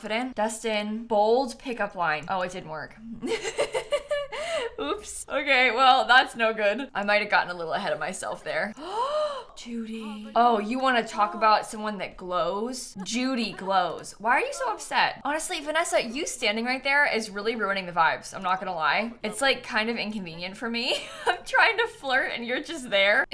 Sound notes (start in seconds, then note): 8.7 gasps